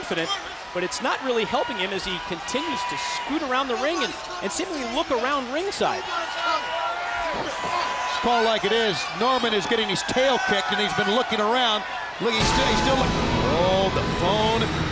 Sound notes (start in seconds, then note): 8.0 crowd chatter